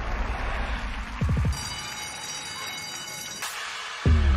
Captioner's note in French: school bell rings